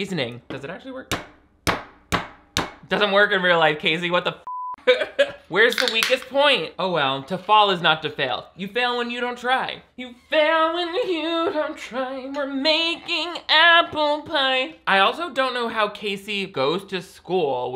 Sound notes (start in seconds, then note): 1.8 loud banging; 4.4 beep; 5.6 can opening